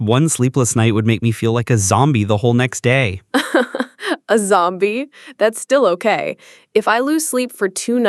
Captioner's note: laughs